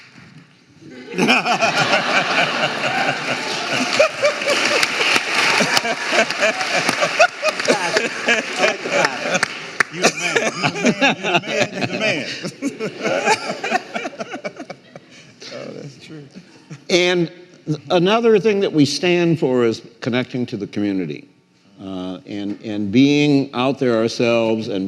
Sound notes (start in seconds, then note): 0.2 some audience members applauding; 2.7 audience laughing; 4.9 audience applauding; 14.1 laughing